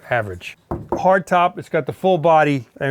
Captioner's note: roof thuds